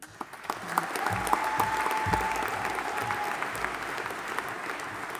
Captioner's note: audience applauding and cheering